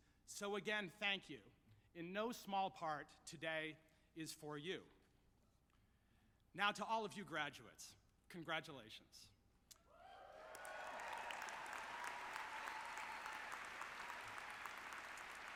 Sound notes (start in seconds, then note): 10.2 audience clapping